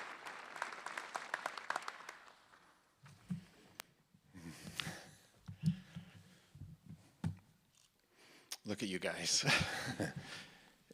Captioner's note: applause